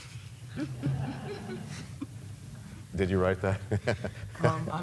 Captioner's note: laughter